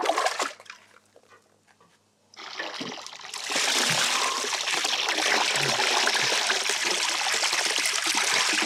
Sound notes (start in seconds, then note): 3.2 slosh